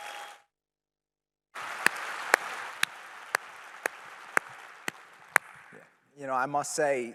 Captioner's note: applause